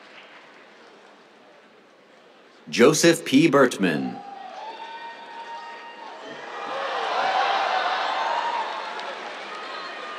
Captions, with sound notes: Joseph P. Birtman. [CHEERS, APPLAUSE]